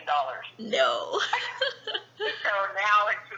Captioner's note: laughs